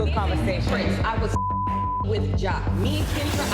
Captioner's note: beep